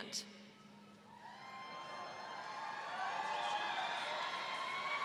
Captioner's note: audience cheering